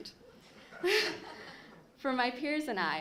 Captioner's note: laughter